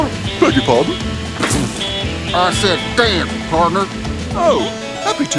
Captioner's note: normal voice